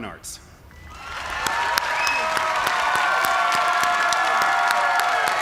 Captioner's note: cheers and applause